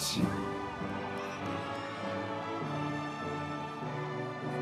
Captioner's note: audience members cheering